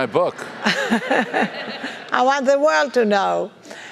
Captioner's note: laugh